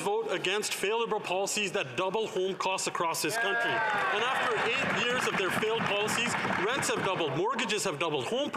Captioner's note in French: voix de l'interprète